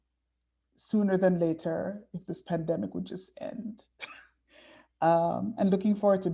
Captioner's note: chuckling